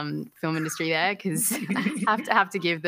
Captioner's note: laughter